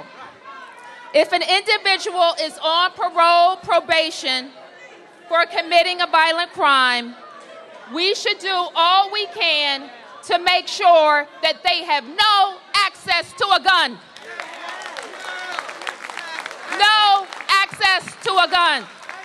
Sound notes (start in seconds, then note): 14.1 applause